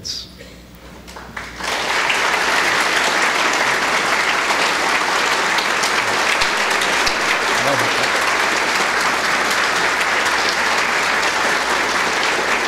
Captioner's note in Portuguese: Aplausos